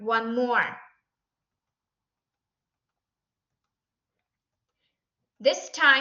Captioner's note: silence